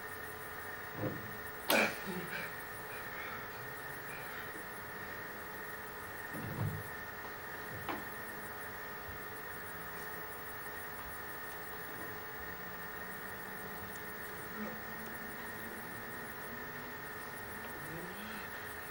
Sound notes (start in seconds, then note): 1.5 bow snaps